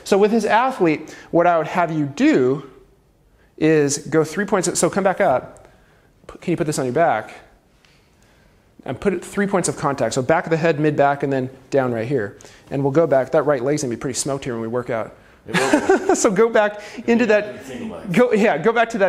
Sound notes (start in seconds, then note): 15.5 laughs